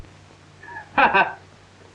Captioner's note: laughs